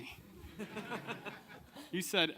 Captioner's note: audience laughing